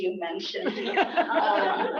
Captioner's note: laughter